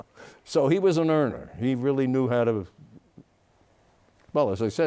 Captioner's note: laughs